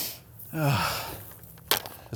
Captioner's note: sighs